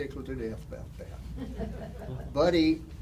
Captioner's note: audience laughter